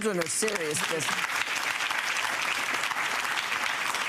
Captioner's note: audience clapping